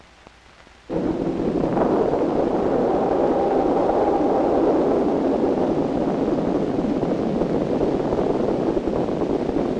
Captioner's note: rocket launch sound